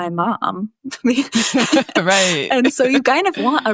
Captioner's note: chuckles